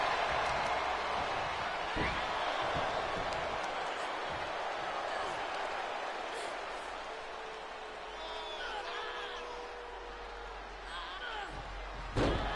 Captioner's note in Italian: Applauso